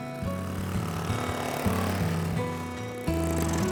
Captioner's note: motor whirring